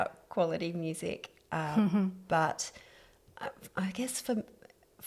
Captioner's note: laugh